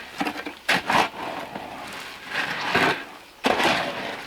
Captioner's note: scraping